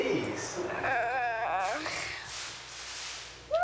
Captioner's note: groans